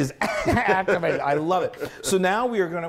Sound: laugh

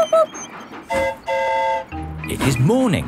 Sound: mimics train whistle; train whistle toots

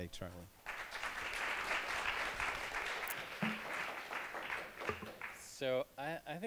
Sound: applause

